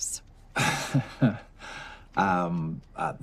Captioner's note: laughs